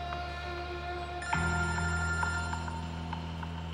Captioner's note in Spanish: Suena el móvil